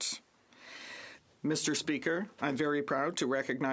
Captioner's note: speaking French